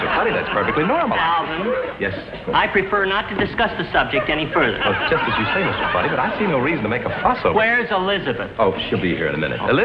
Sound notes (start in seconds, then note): 0.0 audience laughs; 4.9 audience laughs